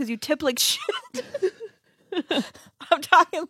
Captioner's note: laughs